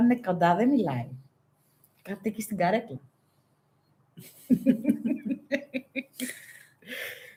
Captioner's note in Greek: γέλια